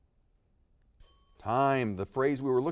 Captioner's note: bell rings